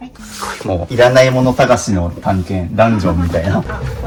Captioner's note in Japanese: 鼻息